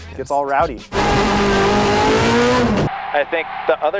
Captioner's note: car engine revving